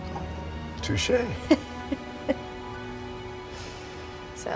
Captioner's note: Sarra chuckling